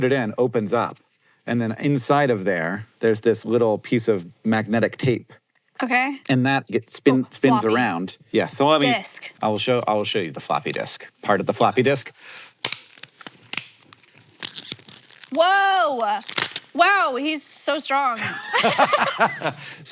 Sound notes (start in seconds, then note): 12.4 floppy disk crackling; 18.2 both laugh